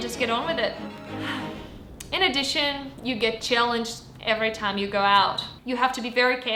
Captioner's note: sigh